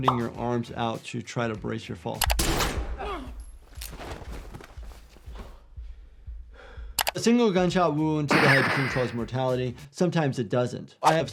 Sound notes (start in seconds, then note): 2.4 gun firing; 8.3 shot firing